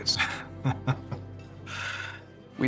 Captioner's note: chuckles